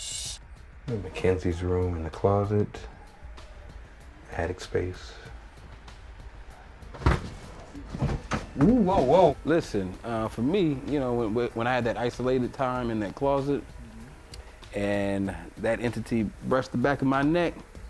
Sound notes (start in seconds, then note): 6.4 shuffling